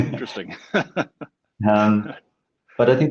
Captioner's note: laughs softly